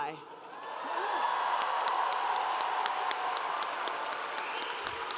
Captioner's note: audience cheers